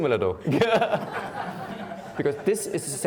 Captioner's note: laughing